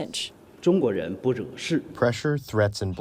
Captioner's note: through translator